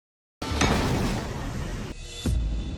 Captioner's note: explosion